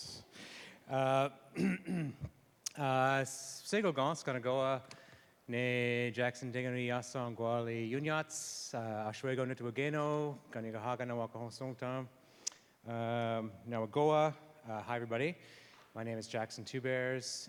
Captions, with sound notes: [SPEAKING Mohawk] Hi, everybody. My name is Jackson Leween Two Bears,